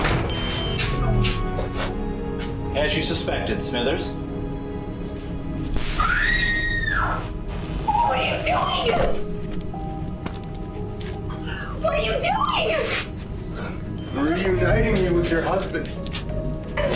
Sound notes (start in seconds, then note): 0.0 lock beeping; 6.0 Kate screams; 6.8 electricity whirring